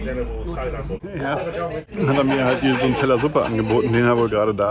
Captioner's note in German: gelächter